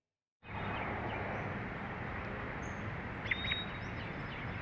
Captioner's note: birds chirp